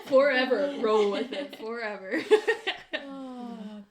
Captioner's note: laughter